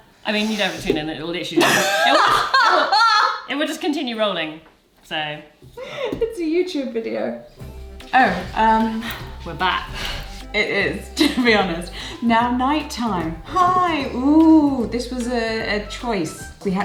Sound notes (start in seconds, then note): 1.6 laughs